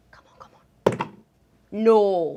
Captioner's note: dice roll